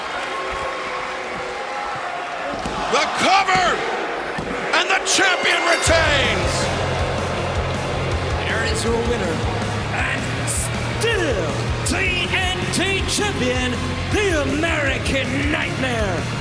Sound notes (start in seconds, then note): 11.2 bell rings